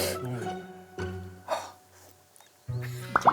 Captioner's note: sigh